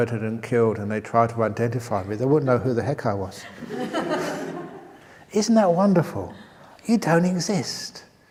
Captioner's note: laughter